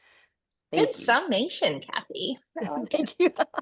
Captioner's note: laughs